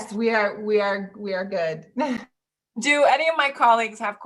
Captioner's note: chuckles